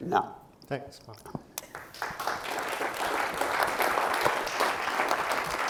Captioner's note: applause